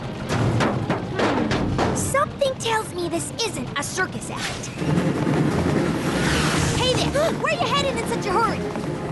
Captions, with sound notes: Hmm. Something tells me this isn't a circus act. Hey, there! [ Gasps ] Where you headed in such a hurry?